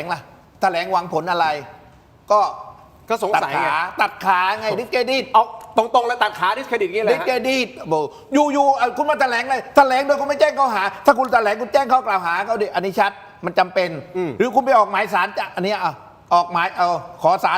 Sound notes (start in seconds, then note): none